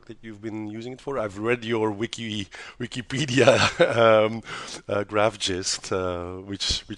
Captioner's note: laughs